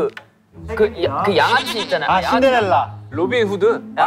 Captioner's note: mispronunciation